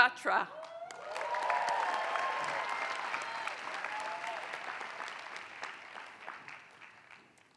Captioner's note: applause